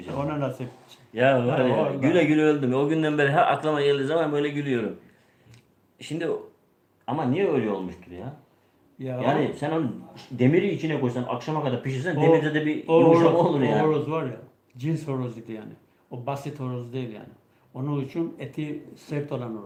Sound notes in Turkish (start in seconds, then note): none